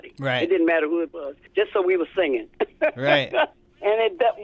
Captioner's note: laughter